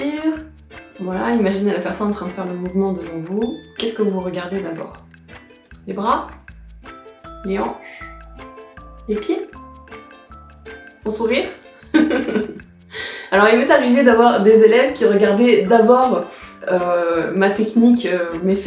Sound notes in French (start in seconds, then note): 11.9 rire